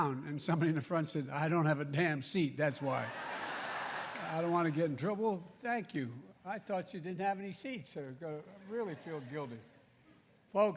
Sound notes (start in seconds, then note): 2.9 laughter